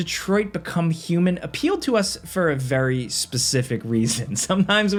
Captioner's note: chuckles